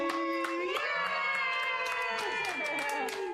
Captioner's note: cheering